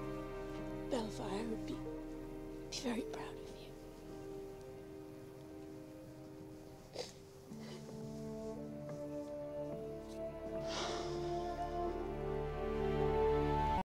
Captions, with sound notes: Baelfire would be very proud of you. (SNIFFLES) (EXHALES DEEPLY)